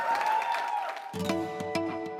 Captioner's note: applause